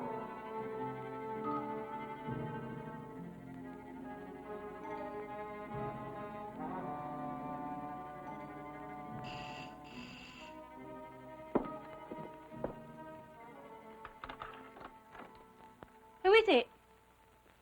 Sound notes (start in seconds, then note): 9.2 doorbell ringing